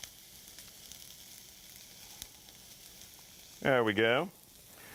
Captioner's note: sizzling pan